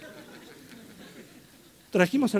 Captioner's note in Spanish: risas